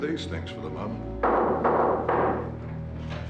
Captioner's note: Ketuk pintu